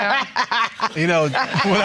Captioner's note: laughing